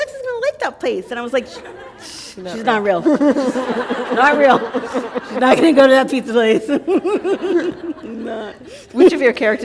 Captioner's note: laughter